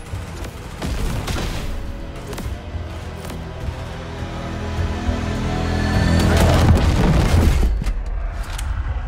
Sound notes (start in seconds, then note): 6.4 explosions